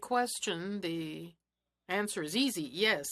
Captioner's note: speaking French